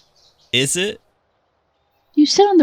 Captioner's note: chuckles